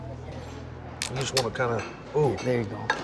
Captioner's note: shell cracking